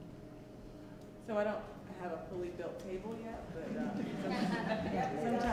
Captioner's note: laughs